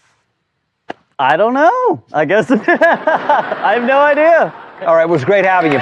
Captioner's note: laughing